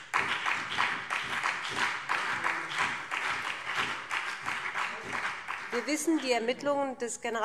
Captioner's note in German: Beifall BÜNDNIS 90/DIE GRÜNEN und CDU